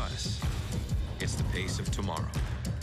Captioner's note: heart beat